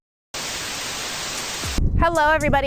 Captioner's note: flames sizzle; staticky buzzing